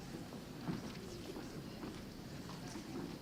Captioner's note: none